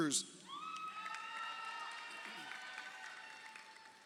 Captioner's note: crowd cheering